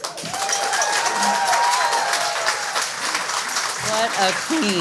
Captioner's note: audience cheers